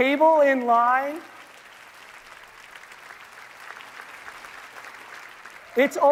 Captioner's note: audience applauding